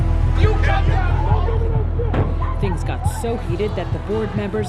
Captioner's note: both shouting in native language